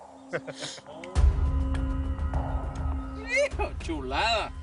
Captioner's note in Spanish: Risas